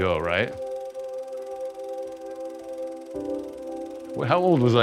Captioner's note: projector whirring